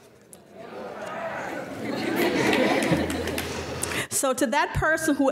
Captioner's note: laughing